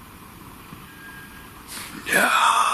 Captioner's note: whistles; whistling